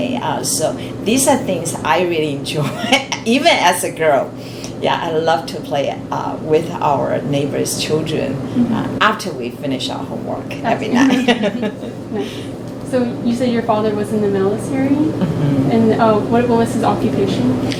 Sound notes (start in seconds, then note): 10.7 all laugh